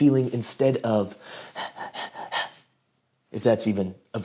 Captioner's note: panting heavily